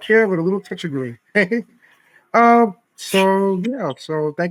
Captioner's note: laughing